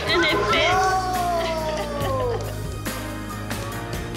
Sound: laughing

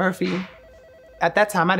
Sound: phone rings

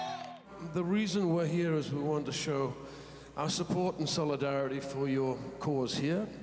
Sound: cheers

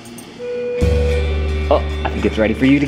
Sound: bell chimes

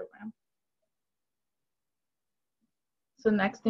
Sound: silence

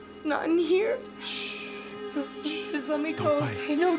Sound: shushing

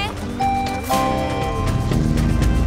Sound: dinging

